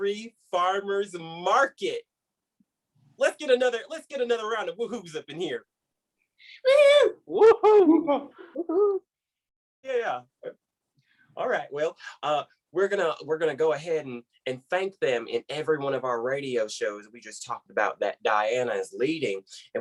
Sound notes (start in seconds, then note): 6.6 different woo-hoo noises